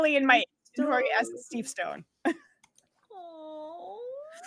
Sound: chuckles

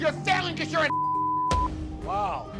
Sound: beep

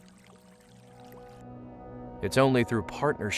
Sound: water babbling

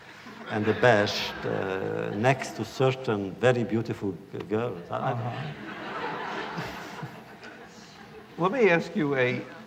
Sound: laughter

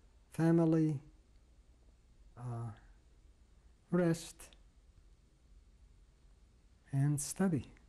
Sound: pauses for 3 seconds

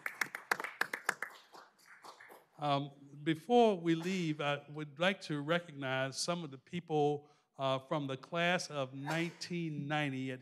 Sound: applause

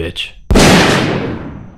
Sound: shotgun fires

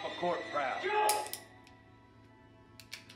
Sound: gun clicks

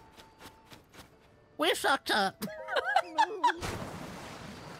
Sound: laughter

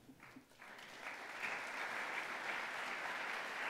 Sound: audience applauds

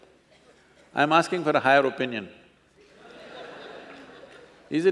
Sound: laughter

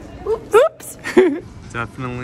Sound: laughs

